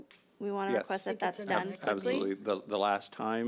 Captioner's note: overlapping chattering